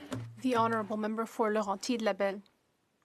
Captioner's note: speaking French